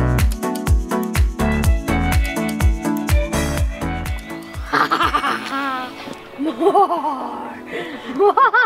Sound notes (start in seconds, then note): 4.6 evil laughing